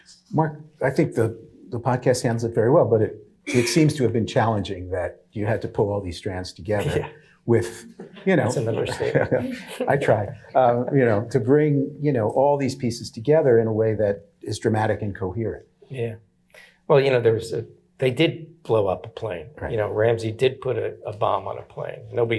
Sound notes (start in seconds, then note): 7.7 chuckling; 7.9 audience laughing; 10.4 chuckling